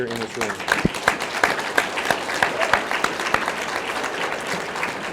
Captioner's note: audience clapping